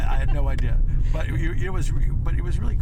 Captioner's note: laughs